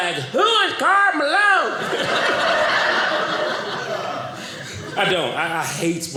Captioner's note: audience laughing